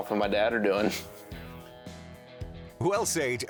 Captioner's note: laughing